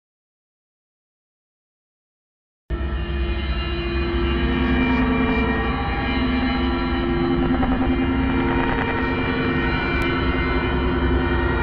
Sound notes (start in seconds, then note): 0.0 sound of creepy ambience